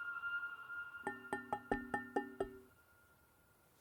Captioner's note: tapping on glass